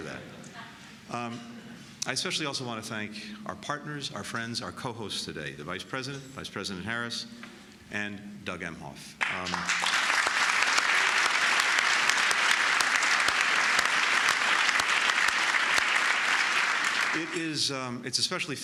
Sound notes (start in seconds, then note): 11.8 applause